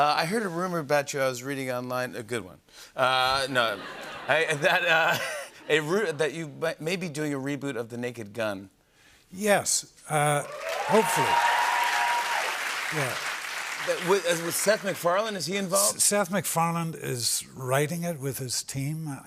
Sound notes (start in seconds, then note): 3.5 laughter; 10.4 cheers and applause